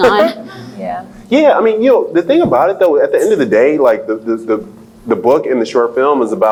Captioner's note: laughs